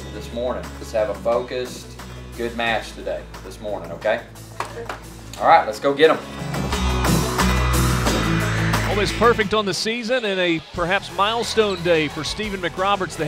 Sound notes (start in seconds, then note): 9.1 voiceover